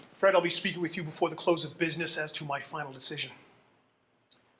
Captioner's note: none